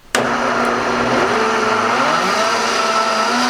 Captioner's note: whirring